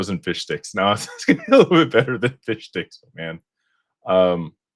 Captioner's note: laughter